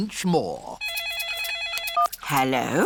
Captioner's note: phone rings